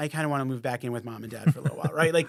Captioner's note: laughs